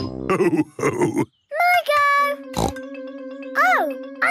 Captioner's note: snorts